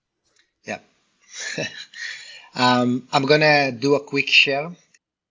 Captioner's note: laughs